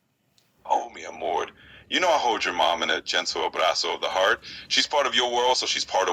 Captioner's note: spanish